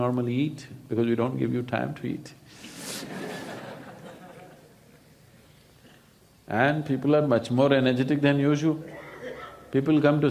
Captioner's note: laughs